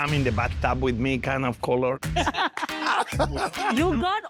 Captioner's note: laughing